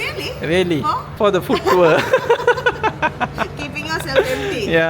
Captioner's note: laugh